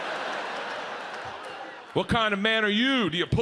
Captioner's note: audience laughs